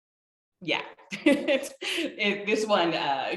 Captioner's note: laughing